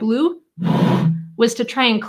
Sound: bottle echos

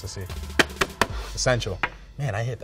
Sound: tapping

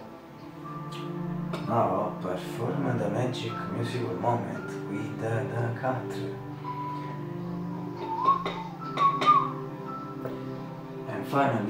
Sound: whistle

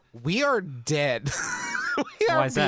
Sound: laughing

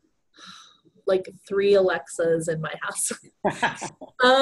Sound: laughs

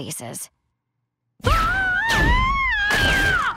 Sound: screaming

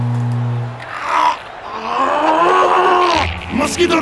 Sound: growls

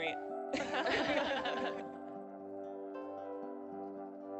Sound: laughing

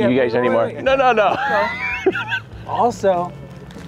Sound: laughs

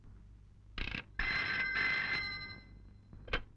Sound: phone ringing

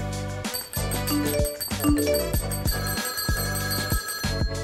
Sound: irritating noise of clock ringing and phone alerts

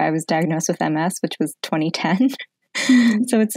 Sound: laughs

